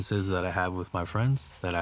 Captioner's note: none